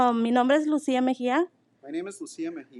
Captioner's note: speaking in foreign language